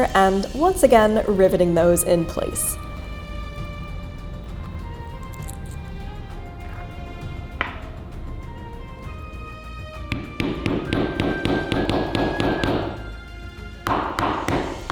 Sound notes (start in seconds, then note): 10.0 hammer pounding